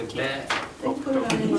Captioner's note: voiceover